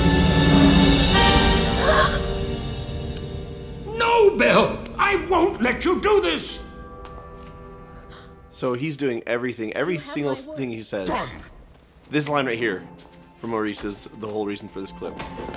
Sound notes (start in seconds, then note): 2.3 gasps